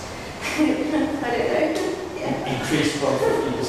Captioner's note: laughs